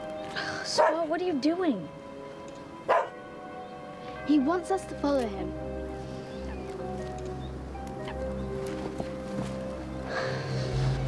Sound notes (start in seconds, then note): 2.8 barks